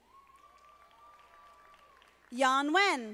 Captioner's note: audience applauding